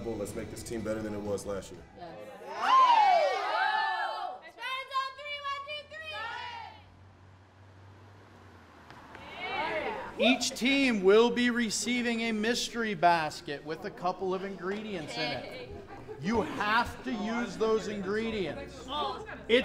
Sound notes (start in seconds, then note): 2.3 girls cheer; 9.4 volleyball players chatter